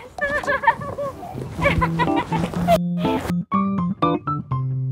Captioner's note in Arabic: يضحك